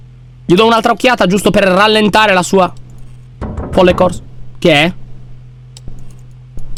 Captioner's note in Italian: rumore di passi